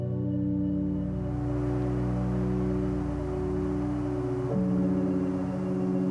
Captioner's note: gentle music continues; wind whooshing